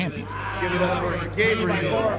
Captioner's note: loud cheering